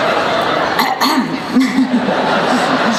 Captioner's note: clears throat